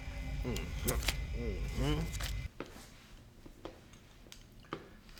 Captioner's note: Mr. Jones vocalizing